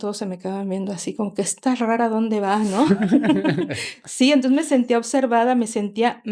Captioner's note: laughs